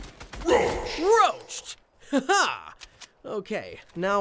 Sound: laughs

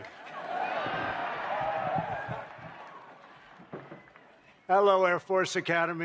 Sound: laughter

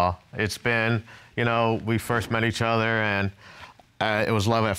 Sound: none

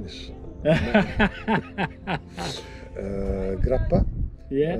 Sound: laughs

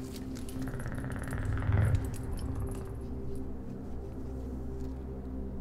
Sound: Geryon's echolocation sounds

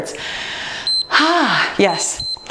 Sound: timer beeps

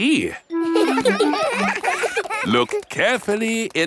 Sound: children laughing; laughs

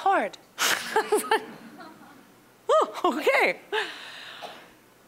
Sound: all laughing

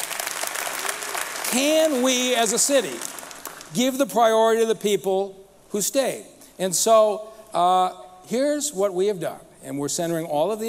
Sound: applause

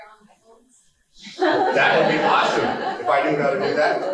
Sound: laughing

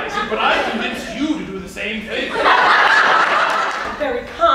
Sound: laughter

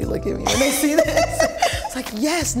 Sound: laughing

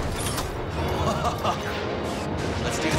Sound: laughs gleefully

